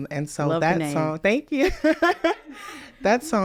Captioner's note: laughs